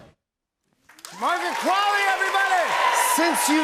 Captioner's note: cheers and applause